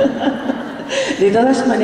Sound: laughter

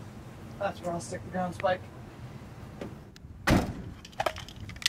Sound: vehicle door shuts close

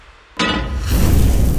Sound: pot clanks; burst of flames

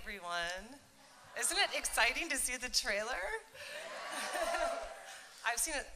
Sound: cheering

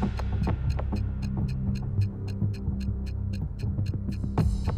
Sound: timer ticking

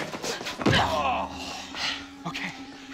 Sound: <i> hard punch and groaning</i>

